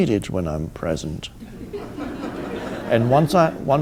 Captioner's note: audience laughing